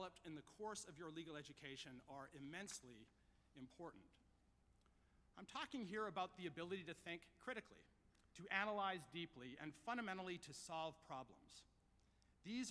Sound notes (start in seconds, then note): none